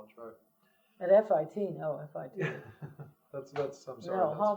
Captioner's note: laughter